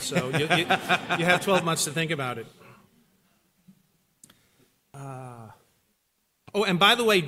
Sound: laughter

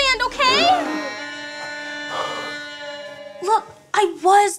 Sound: everyone gasps

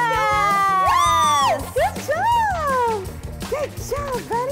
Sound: cheering

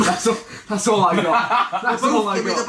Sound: laughing

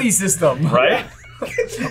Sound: laughs

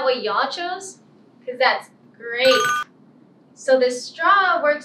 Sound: ringing bell

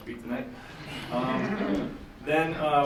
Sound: audience laughs

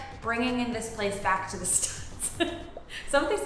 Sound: chuckles

